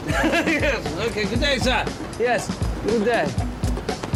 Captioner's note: laughs